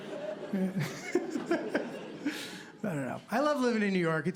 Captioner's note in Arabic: يضحك